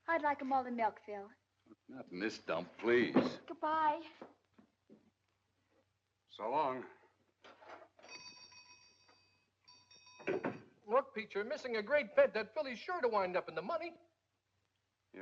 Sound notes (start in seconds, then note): 7.9 door bell jingling; 10.2 door closes